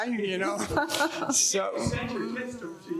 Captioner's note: panelists laughing